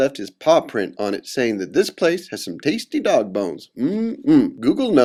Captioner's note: mmm... mmm